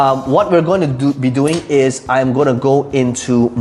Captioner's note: pen clattering